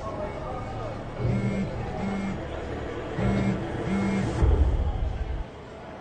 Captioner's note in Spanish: Ruido al vibrar el celular